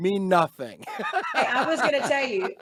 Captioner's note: laughing